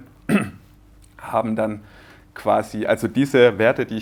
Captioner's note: clear throat